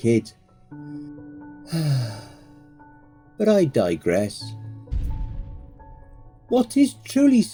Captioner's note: sigh